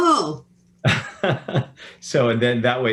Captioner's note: chuckles